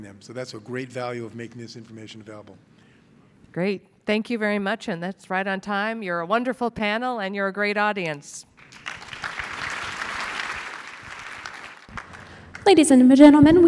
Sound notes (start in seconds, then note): 8.6 clapping